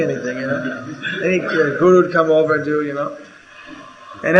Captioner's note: laughter